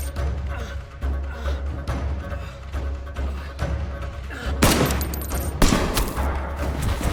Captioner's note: Dan groaning; guns banging; dramatic music